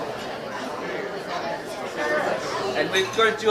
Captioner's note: all chattering